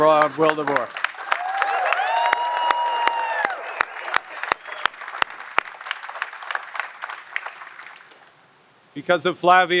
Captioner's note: applause